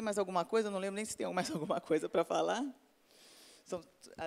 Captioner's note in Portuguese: risos